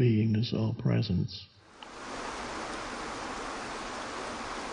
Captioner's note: water rushes